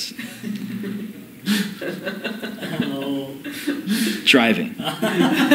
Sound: laughter

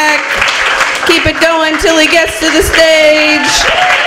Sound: applause

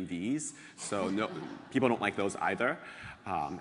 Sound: laugh

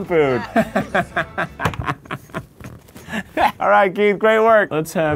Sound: laughing

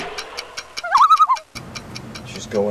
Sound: loon call

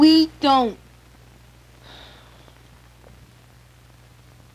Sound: sighs

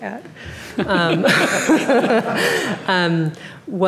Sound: laughing

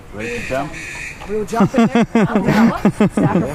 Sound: laughing

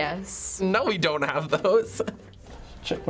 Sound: laughing

